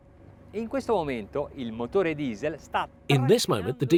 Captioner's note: speaks in foreign language